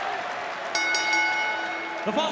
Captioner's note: bell ringing